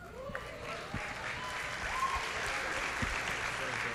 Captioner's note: applause